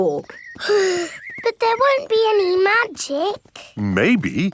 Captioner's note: sighs